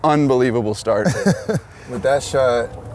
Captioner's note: laughs